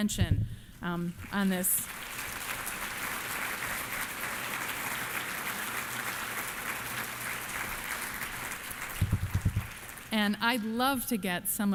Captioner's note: applause